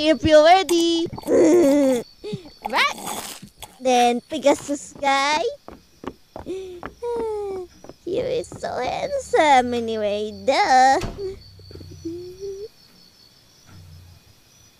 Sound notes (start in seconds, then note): 0.7 laughs